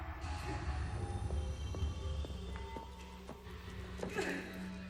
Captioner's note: footsteps clacking; Aja whimpers